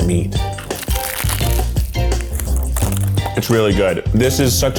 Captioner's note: upbeat music; crunching